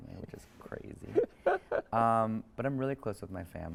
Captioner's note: speaker chuckles